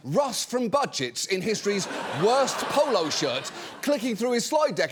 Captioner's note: audience laughing